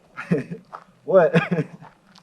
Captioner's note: chuckles